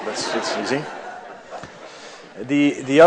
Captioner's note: laughter